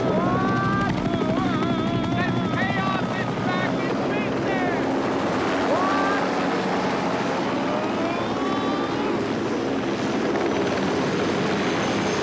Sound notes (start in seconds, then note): 0.1 yells; 7.4 helicopters whir; 7.4 yelling